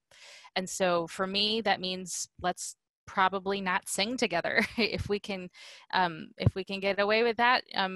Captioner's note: laughter